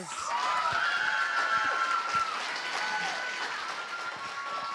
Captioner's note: cheers, applause